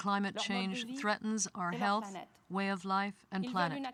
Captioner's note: speaking french